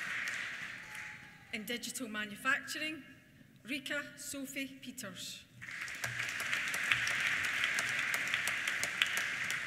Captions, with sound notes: In Digital Manufacturing, Rike Sofie Peters. (APPLAUSE)